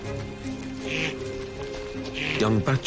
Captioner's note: bleating